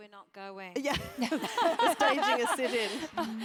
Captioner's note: laugh